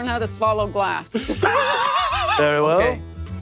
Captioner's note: laughs